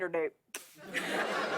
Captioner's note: laughter